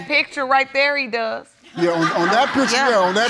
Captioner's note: audience laughing